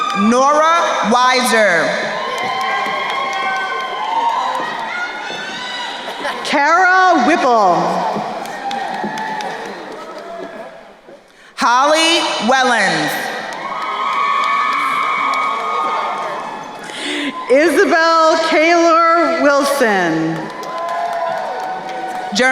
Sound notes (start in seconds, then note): 2.0 crowd cheering; 8.7 crowd applauding; 13.8 crowd cheering; 20.4 crowd cheering